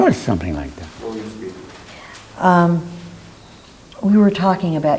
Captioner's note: man speaks off mic